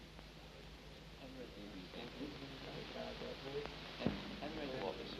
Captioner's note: people chatter